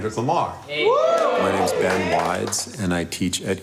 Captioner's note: class cheering